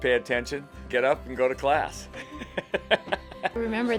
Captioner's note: laughs